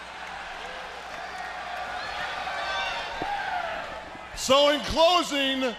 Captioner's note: crowd cheering